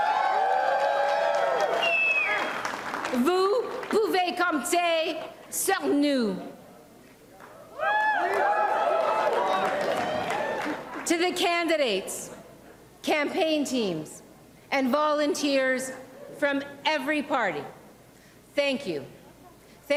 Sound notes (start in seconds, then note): 3.3 cheers and applause; 6.1 speaking in French